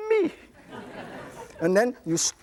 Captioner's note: audience laughs